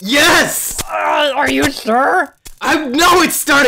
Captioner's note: fizzling; pain noises